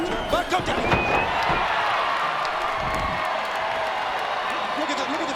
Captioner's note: crowd cheering